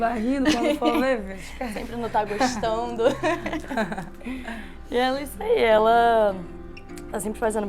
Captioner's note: laughts